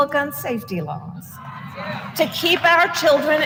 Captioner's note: applause